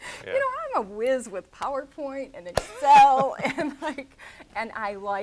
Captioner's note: laughs